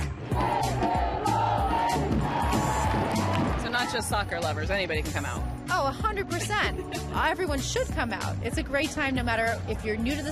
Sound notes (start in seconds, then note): 0.0 crowd cheering; 0.1 crowd chanting